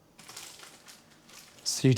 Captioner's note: plastic rustling